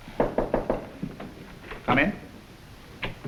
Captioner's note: door knocking